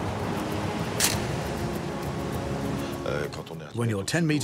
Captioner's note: camera snapping